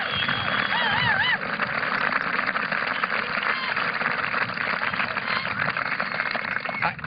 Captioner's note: applause